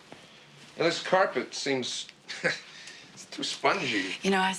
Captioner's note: chuckles